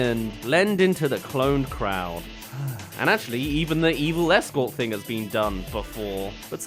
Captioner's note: sigh